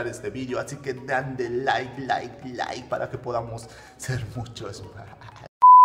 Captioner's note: laugh